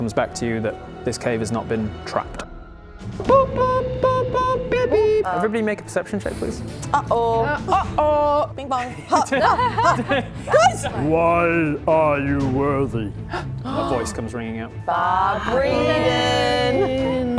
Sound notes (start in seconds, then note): 3.4 echo location